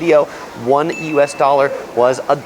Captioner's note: bell dings